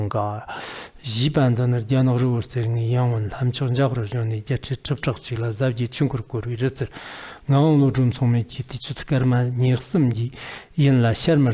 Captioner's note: giving oral transmission in Tibetan